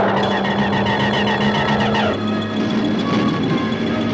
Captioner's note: zapping